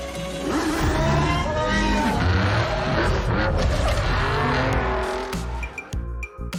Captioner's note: engines revving